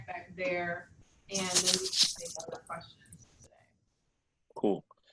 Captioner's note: static